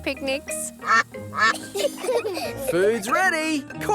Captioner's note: quacking; children giggle